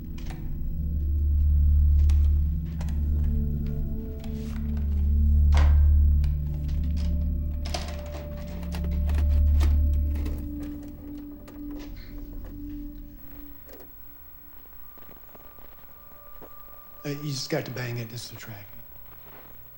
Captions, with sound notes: [intense music] [rattling] - Uh, you just got to bang it. It's the tracking.